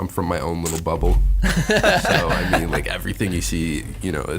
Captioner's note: all laugh